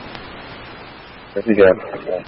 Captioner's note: radio traffic